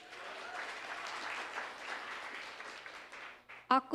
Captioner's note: applause